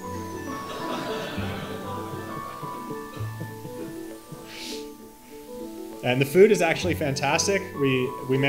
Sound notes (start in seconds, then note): 0.5 audience laughing